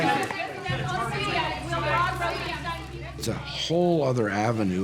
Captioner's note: reporters calling out